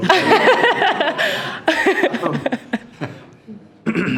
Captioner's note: all laughing